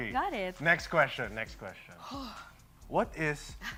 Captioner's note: exhales heavily